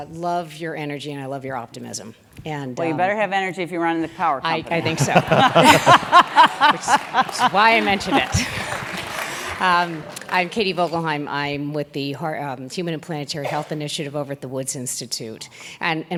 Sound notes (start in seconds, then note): 4.6 laugh; 5.5 applause